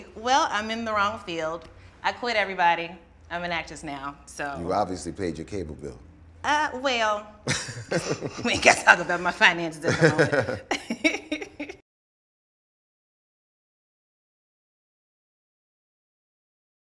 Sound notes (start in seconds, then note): 7.4 both laughing